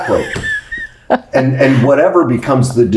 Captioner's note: laughs